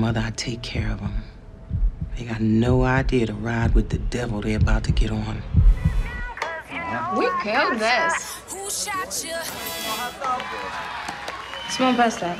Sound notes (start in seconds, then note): 10.0 applause